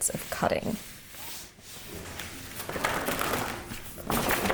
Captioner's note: linen ruffling